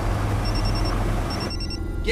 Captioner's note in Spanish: Suena el celular